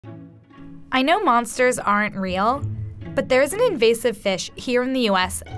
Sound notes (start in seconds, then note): 1.1 voiceover